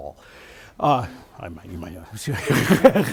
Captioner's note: laughs